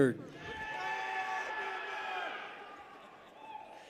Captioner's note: people cheer